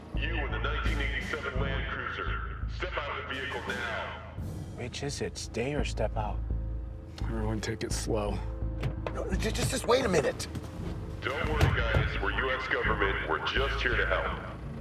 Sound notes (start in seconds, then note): 11.3 loudspeaker